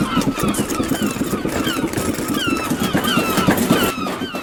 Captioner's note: gulls squawking; wings flapping; latch rattling